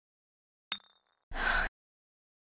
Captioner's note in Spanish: vidrio moviéndose; Rochelle suspira